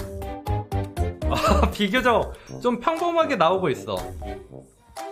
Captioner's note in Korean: 웃음